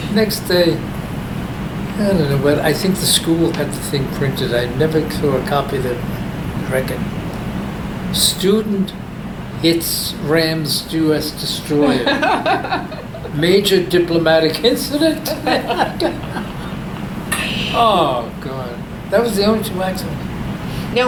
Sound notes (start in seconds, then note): 14.9 all laugh